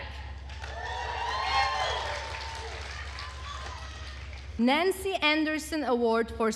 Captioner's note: attendees cheering and applauding